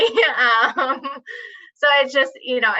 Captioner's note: laughs